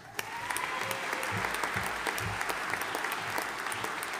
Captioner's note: audience applauding